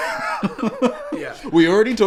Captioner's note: laughing